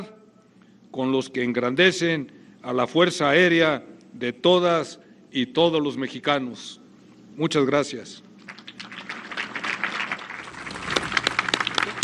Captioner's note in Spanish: aplausos